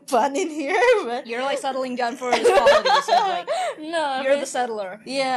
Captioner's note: even more laughter